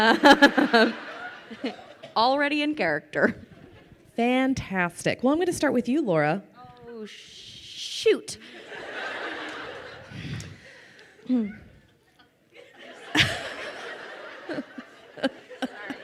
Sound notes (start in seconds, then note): 0.1 laughing; 8.4 crowd laughing; 12.5 laughing